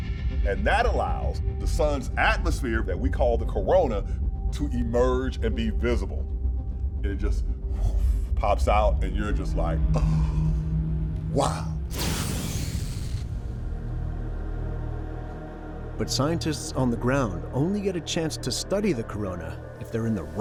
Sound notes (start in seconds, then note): 7.2 makes sound effect; 9.9 gasps